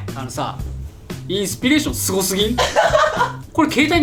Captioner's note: laughs